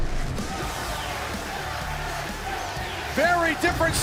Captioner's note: cheers and applause